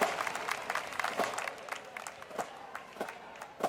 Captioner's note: applause